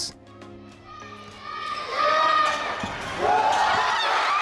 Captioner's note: crowd yelling; crowd applauding; crowd cheering